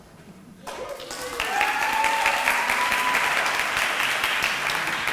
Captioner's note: audience applauding